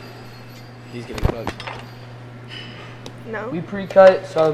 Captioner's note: objects clattering